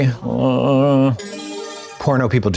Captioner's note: bright chime